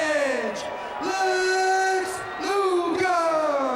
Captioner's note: crowd boos